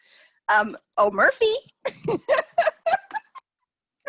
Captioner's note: laughs